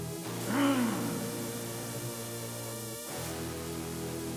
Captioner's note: monster grumbles